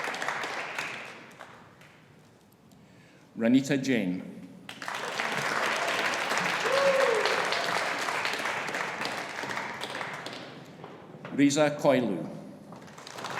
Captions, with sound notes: Ranita Jain. (AUDIENCE APPLAUDING) (AUDIENCE CHEERING) Reza Khoylou.